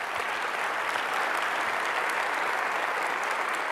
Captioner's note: audience applauds